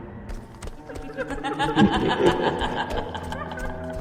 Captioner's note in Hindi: हंसी